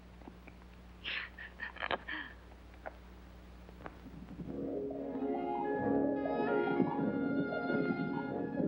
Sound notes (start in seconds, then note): 1.1 chuckles; 4.5 cheerful music